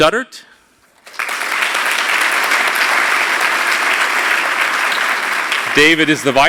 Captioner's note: applause